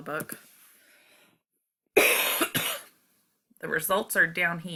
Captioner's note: cough